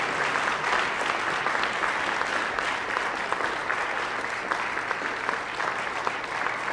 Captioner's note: applause